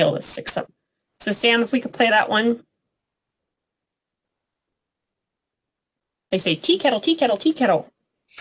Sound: sound effect

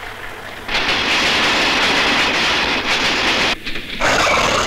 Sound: train rumbling; door creaks

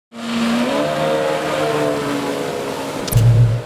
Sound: jet ski running

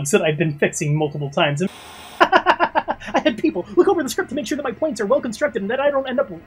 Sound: static

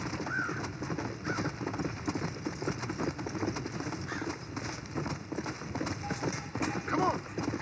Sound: horse galloping and cries of crows; horse galloping

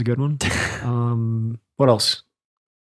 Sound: laughs

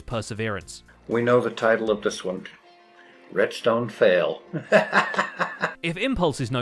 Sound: chuckles

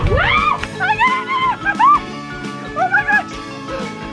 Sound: cheering

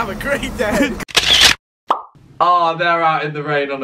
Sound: camera clicks; pop

